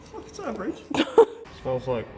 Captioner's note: giggle